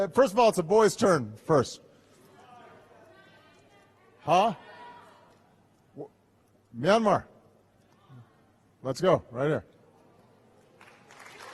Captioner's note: applause